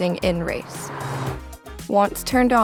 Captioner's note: car whooshes